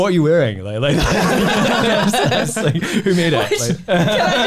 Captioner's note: laughs